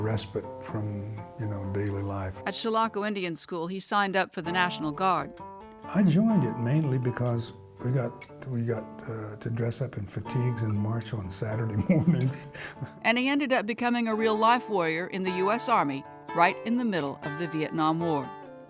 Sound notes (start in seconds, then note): 11.5 laugh